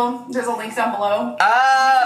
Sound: yelling

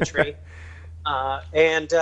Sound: laughs

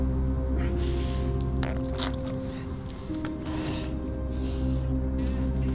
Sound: wetsuit gloves squelching

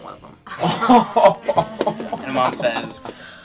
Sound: laughing

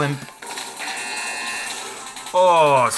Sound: buzzer ringing

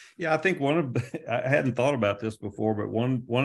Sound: chuckles

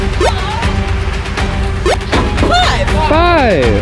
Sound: jump squeaks

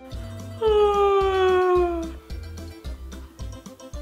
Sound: yawning

